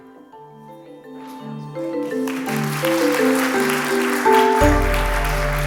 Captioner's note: applause